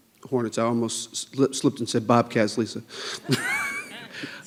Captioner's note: laughs